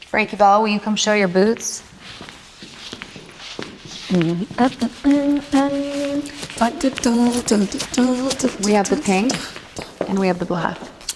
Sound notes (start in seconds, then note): 4.2 humming